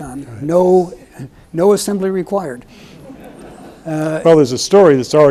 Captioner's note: audience chuckles